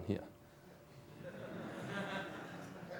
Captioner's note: laughter